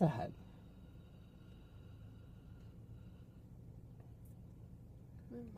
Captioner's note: breathing